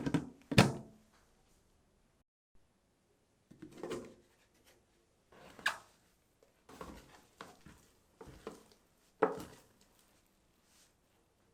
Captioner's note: folding